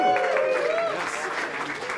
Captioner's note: applaudissements